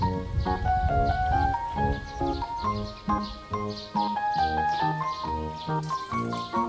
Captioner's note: Sweeping